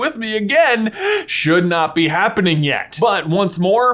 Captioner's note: gasps